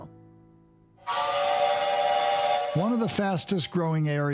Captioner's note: train whistle blows